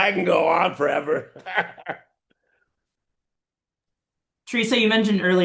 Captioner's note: laughing